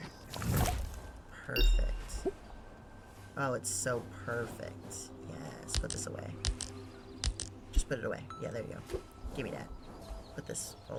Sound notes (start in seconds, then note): none